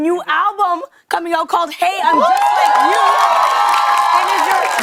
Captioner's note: cheers and applause